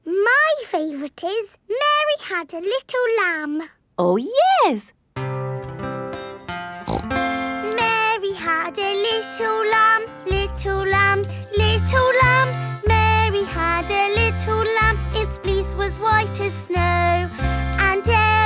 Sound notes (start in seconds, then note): 5.4 playing guitar; 6.8 snorts